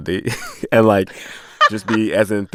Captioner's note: laughter